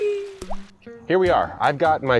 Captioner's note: plant "wee" sound effect; plopping sound